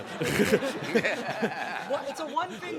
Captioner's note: laughs